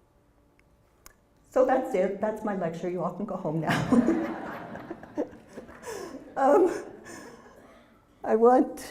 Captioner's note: laugh